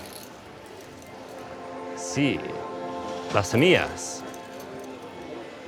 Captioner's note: speaking Spanish